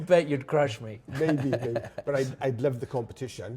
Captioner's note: laughing